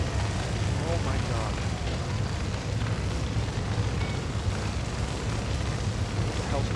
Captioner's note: fire roaring